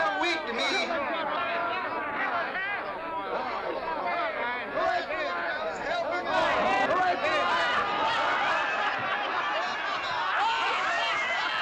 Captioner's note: drunken clamoring